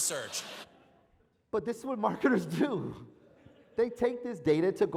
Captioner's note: laugh